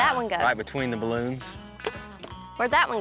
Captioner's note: arrow shot